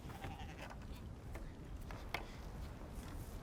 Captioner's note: bleating